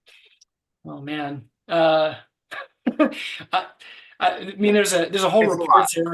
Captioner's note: laughing